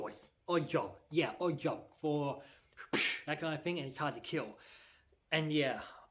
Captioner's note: slap noise